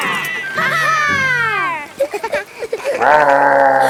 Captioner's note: gasps; laughing; growling